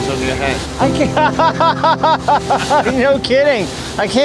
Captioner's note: laughter